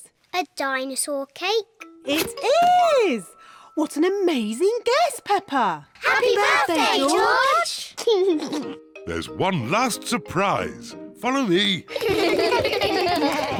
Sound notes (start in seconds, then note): 8.0 laughs; 11.8 kids laugh